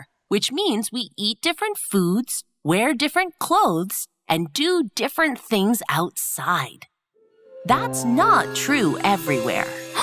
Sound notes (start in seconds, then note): none